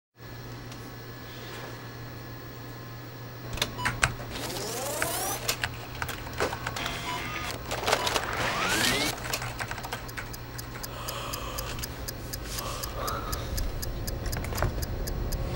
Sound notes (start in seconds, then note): 3.7 computer beeping; 4.0 tape whirring; 10.3 clock ticking; 10.3 woman yawns